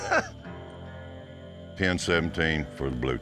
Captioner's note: laugh